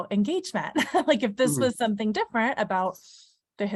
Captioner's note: laughs